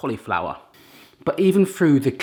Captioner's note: sniffs